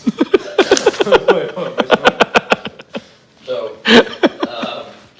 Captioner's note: Jake giggling